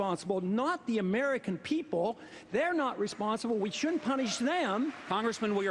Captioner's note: cheers, applause